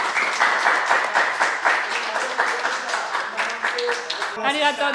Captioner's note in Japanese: 拍手